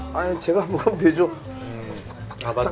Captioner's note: nom nom nom